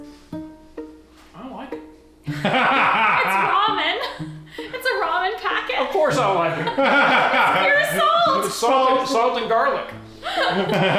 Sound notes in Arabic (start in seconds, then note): 6.4 الجميع يضحك